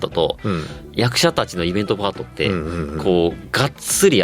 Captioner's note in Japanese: 咳払い